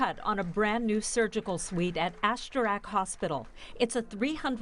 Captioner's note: applause